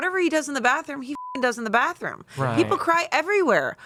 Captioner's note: beep